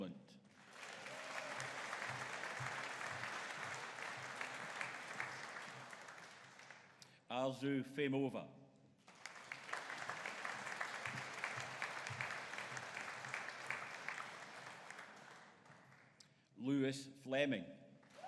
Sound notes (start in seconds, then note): 0.5 audience applauding; 9.0 audience applauding